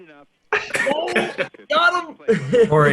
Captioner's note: all laugh